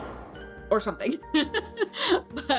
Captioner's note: laughs